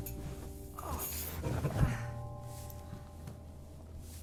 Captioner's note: groaning